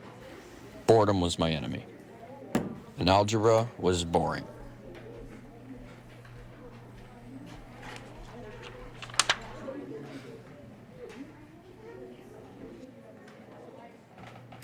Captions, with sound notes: Boredom was my enemy. (pencil thuds) And algebra was boring. (students chattering) (paper rustles) (students chattering continues)